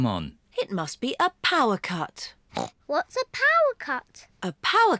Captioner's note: grunts